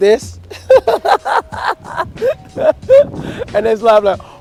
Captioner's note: laughing